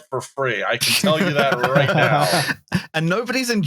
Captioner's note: laughter